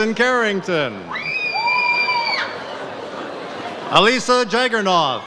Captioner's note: audience cheers